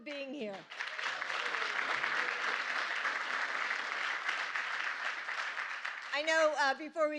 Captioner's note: applause